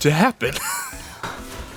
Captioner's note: wheeze